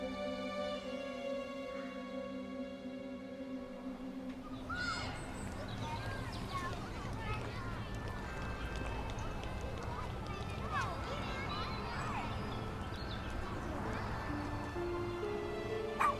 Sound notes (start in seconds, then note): 5.2 birds chirping; 8.8 birds chirping; 11.2 gentle music